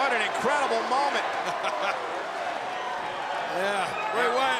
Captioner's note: laugh